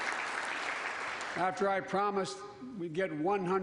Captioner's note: applause